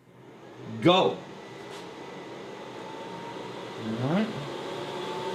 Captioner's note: printer droning